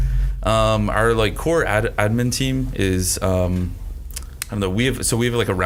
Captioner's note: clicks tongue